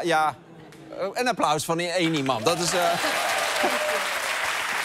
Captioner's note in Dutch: applaus